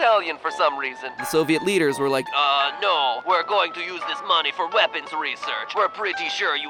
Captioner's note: also in Italian accent